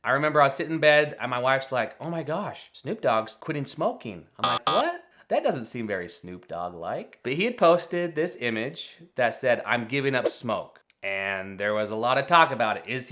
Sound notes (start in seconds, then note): 4.4 screen buzzing; 10.2 screen whooshing